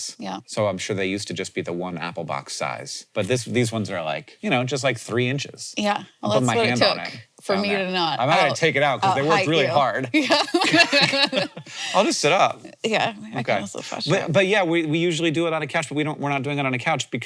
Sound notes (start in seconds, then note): 10.0 both laughing